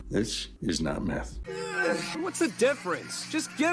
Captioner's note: Mista groaning distorted